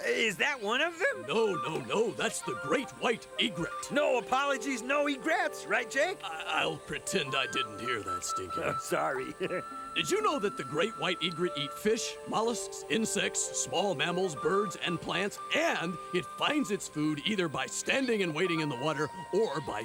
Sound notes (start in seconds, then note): 8.4 laughs